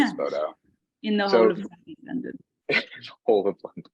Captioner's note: laughing